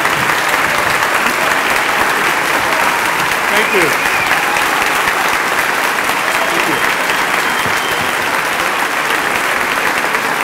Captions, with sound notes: Thank you. [APPLAUSE] Thank you. [APPLAUSE]